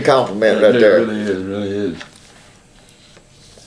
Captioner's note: laughs